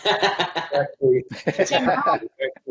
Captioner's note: laughs